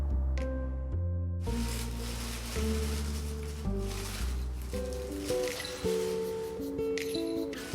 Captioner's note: paper rustling